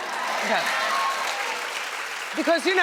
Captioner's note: audience applauding